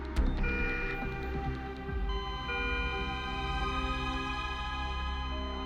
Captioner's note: monitor beeping